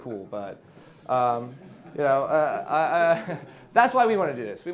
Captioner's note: audience laughs